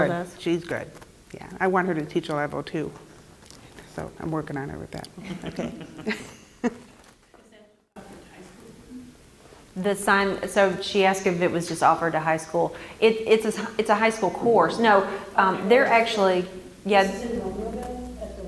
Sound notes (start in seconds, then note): 5.2 laugh